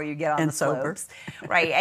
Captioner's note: laughing